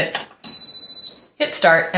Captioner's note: oven beeping